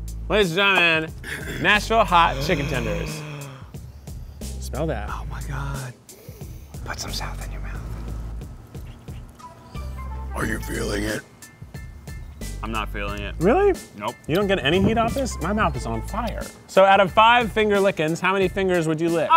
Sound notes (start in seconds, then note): 2.1 gasps